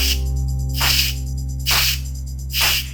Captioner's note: hissing sound